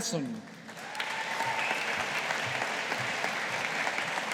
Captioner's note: audience applauding